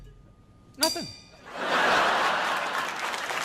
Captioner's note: crowd laughing; crowd clapping